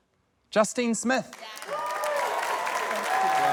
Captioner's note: applause